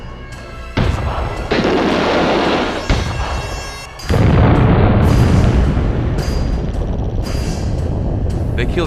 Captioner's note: explosion